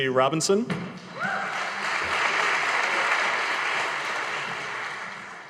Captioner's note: audience applauding